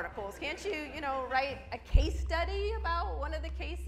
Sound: audience laughs

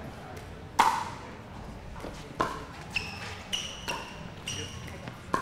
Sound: ball bouncing

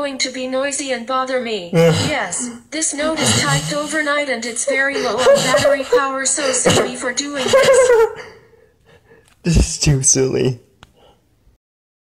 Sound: laughing

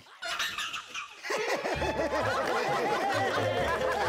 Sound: laughing

